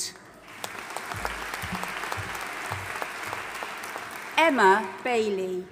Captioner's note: audience applauding